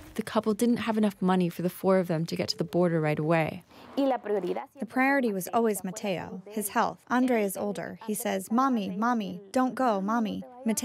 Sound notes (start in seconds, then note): 4.1 through translator